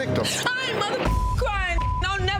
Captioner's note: beep